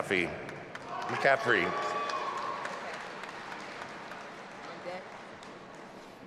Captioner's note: audience applauding and cheering